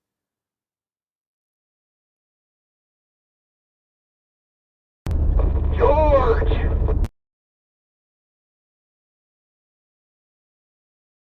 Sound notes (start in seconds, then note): 0.0 all sound begins to fade; 5.0 engine noise